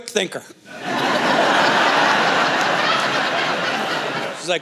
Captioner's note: laughter